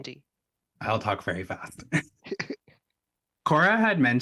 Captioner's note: laughs